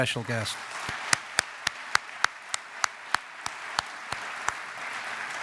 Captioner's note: audience applauds